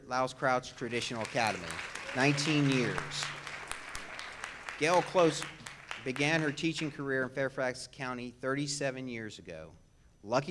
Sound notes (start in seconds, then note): 0.8 audience claps